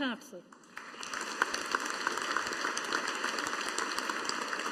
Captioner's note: audience applauding